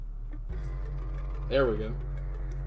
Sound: door finally closes

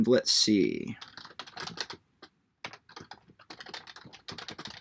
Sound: keyboard clicking

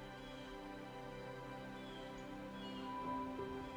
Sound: birds chirping; gentle music

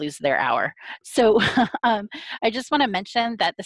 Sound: laughs

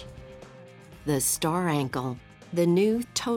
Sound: voiceover

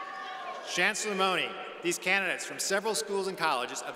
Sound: none

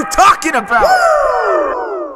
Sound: woooooooo

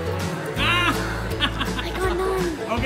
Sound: laughs

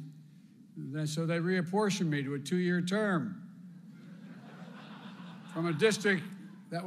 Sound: laughter

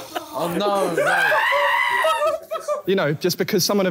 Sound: screaming

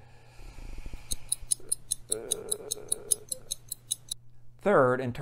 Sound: clock ticking

